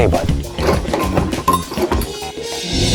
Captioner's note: metal clanking; intense music